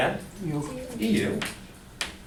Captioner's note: voiceover